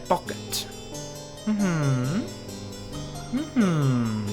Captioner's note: hums